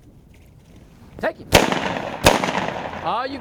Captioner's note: gunshots crack